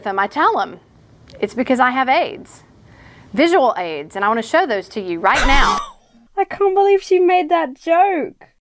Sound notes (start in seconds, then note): 5.3 laughs